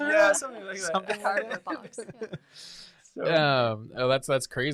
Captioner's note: laughs